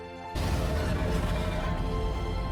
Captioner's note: creature roars